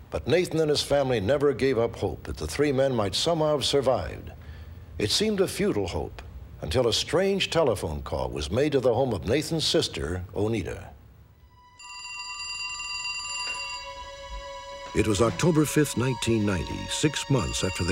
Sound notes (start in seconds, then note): 11.5 phone ringing